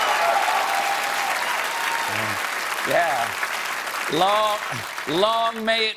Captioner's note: cheers and applause